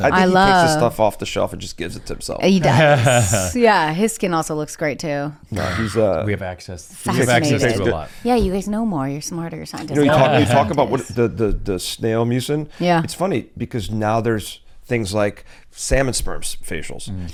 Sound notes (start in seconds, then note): 2.6 laughs; 9.9 laughs